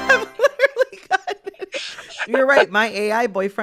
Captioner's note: laughter